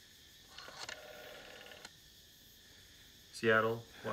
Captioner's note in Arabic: صوت رنين الهاتف